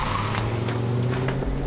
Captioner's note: tires screeching